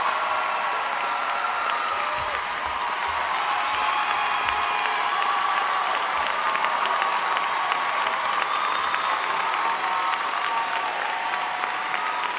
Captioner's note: applause